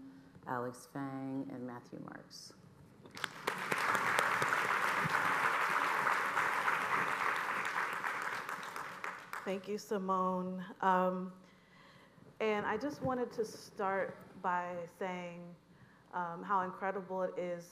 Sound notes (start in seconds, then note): 6.7 applause